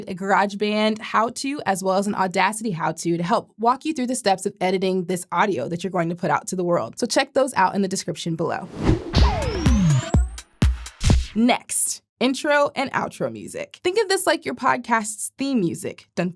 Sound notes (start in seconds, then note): 8.6 transition whooshing; 8.7 upbeat music